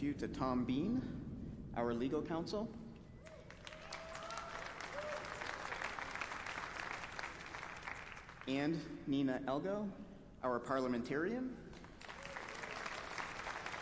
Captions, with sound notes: BEFORE PROCEEDING WITH OUR BUSINESS, I WANT TO INTRODUCE YOU TO TOM BEAN, OUR LEGAL COUNSEL, AND -- [APPLAUSE]